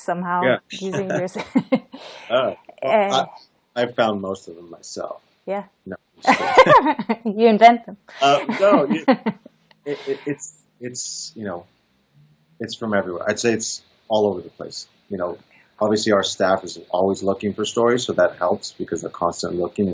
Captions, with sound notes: somehow using this [chuckles] I found most of them myself. [laughs] You invent them?. [laughs] It's from everywhere. I'd say it's all over the place. Obviously, our staff is always looking for stories so that helps because they're constantly looking